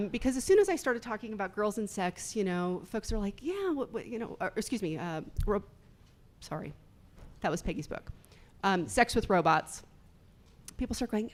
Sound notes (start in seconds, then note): none